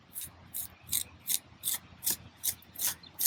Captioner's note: trowel scraping